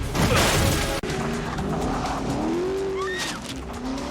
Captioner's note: engine revving